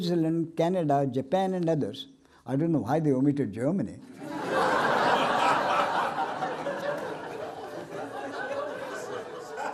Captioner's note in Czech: smích